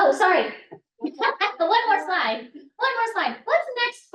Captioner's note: laughs